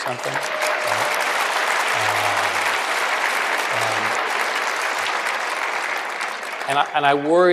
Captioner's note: applause